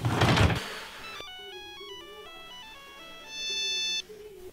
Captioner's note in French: Sonnerie